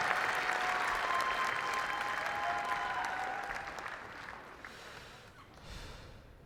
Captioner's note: cheers, applause